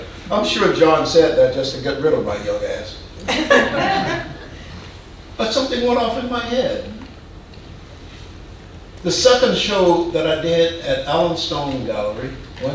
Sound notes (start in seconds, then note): 3.3 audience laughing